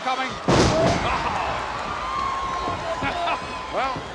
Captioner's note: audience cheers